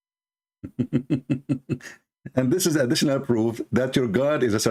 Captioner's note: Ketawa